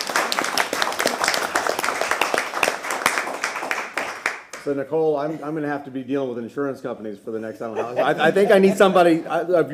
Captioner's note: applause